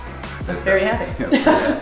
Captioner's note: both laughing